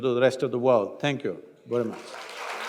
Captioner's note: applause